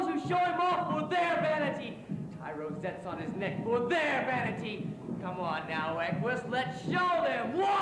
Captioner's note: shouts